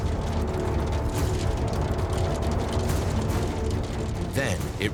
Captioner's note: stones hitting roofs